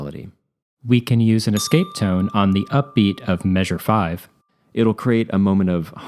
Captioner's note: ding